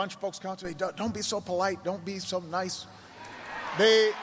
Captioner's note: cheers and applause